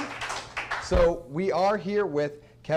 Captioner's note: applause